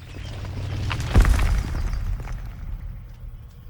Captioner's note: earth rumbling